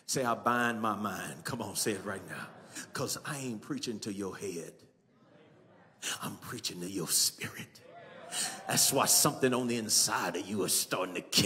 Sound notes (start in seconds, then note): 7.8 congregation cheering